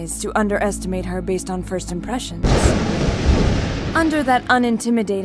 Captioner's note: thunder crack